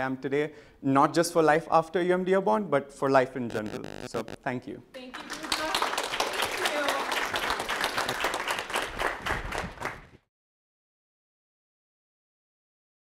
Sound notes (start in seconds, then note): 5.1 clapping